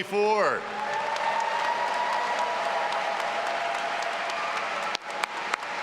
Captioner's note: all applauding and cheering